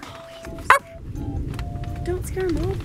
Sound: makes a barking sound

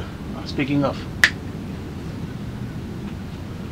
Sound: snap

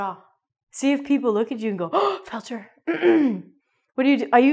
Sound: gasp

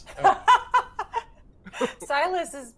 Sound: game Master laughs

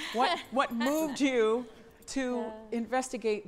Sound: laughs

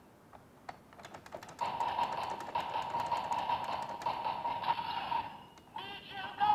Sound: crank sound effect

